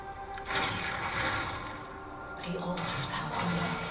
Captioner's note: in-game voice